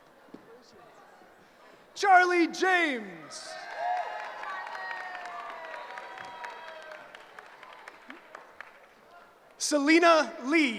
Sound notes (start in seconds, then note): 3.1 cheering